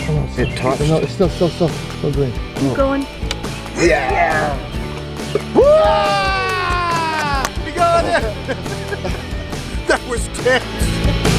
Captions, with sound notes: -Keep going. -Ya! [whoops and hollers] -We got it! that was tense!